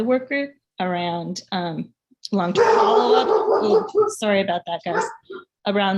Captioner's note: dog barking